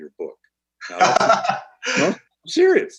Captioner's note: laughs